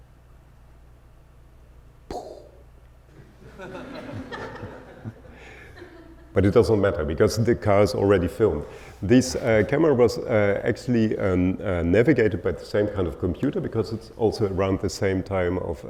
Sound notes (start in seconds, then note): 2.1 imitating explosion; 3.2 audience laughing